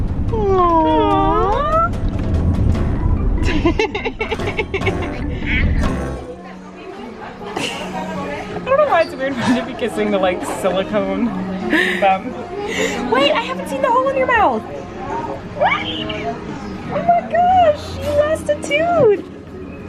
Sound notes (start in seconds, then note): 3.4 laughing; 7.5 laughing; 15.7 gasping